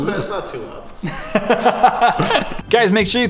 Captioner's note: laugh